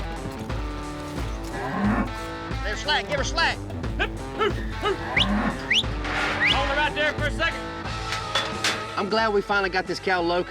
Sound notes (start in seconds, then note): 6.9 whistles; 9.6 gate clanks shut